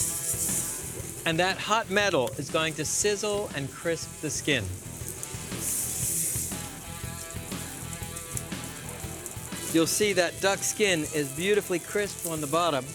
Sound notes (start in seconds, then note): 0.0 grill sizzles; 4.5 sizzling